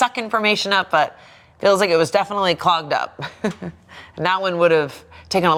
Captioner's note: laughing